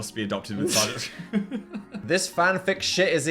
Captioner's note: laugh